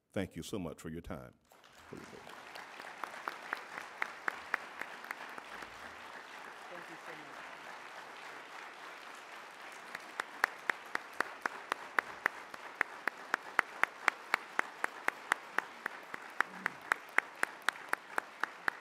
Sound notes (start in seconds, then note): 3.5 applauding